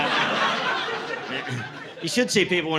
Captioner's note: laughter